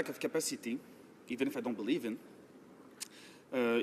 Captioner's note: speaking in french